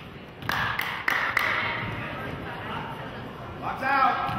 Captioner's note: clapping